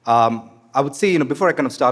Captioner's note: none